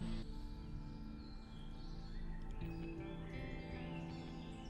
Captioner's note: birds chirping